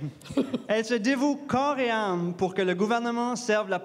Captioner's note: moderators chuckle